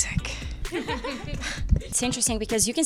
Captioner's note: laughing